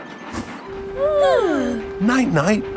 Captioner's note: both yawning